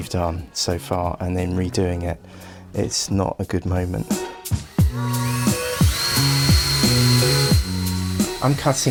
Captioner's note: sawing noise